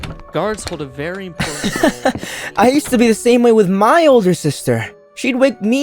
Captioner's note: laughs